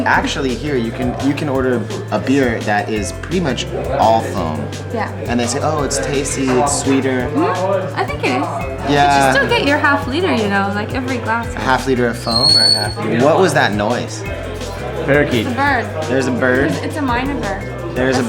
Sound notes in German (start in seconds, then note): 12.2 Pfeifen